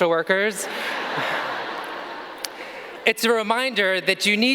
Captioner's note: audience laughing